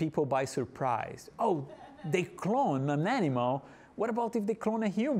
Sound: audience laughing

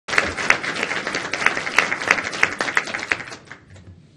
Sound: audience applauding

